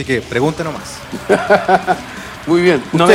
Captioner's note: laughs